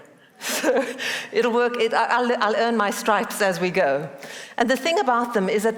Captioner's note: laughs